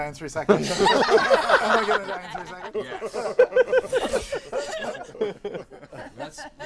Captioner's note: laughter